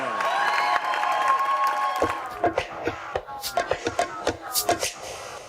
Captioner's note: Senate applauding and cheering